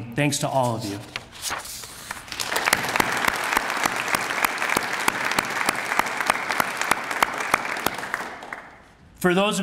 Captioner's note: applause